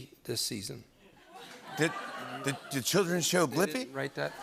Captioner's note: laughter